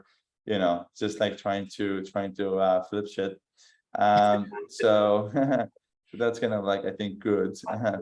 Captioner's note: laughter